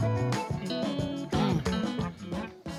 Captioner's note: mmmm!